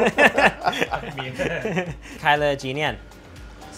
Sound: laughter

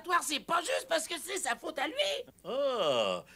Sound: chuckling

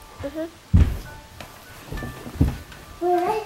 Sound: thud

